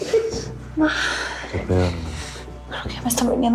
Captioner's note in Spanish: Gemidos